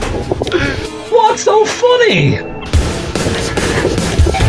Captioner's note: Sherlock laughs